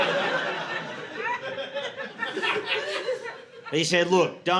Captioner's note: audience laughing